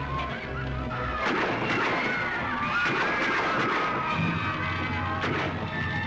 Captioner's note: gunshots and screams